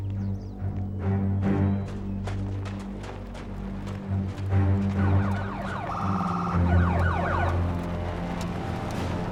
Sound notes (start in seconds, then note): 4.8 emergency vehicle siren